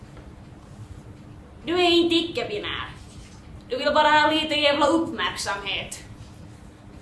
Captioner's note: high and nasal voice